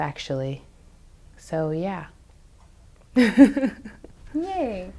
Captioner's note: laughs